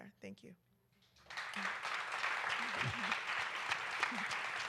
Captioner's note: applause